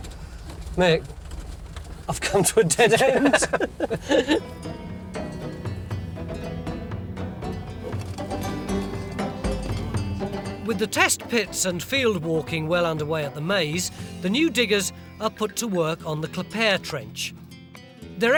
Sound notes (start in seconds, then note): 2.2 laughing; 4.8 cheerful music